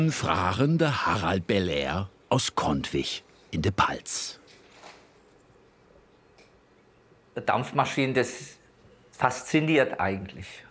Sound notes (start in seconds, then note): none